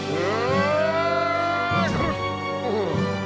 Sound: crashes, groans

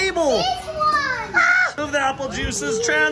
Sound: screams

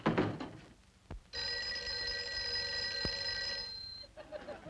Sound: phone ringing

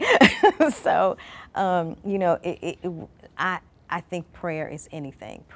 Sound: laughs

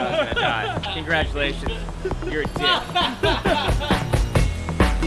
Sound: laughs

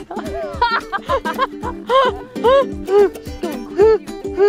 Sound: laughing; lively guitar music

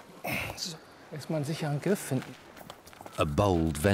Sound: speaks German

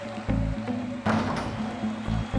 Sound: backboard clanks; audience applauding; audience cheering

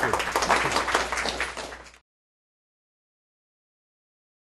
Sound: crowd applauds

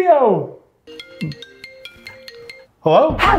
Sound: cell phone rings

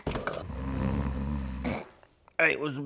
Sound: snoring

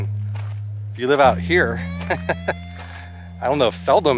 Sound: laughter

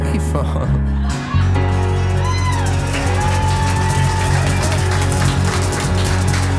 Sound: audience cheering and applauding

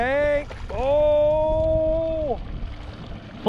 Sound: fish splashing

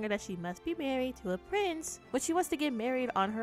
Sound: Jasmine impression

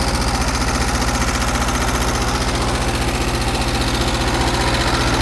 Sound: engine running

